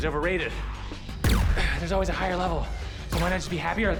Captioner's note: grunts